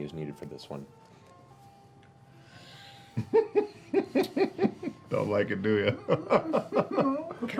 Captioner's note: laughs